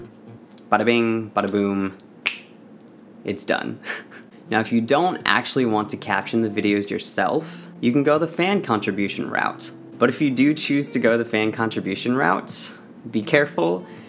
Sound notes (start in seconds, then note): 1.9 finger snap; 2.2 hand clap